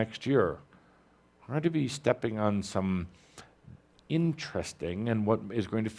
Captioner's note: none